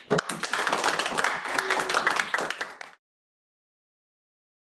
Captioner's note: audience applauds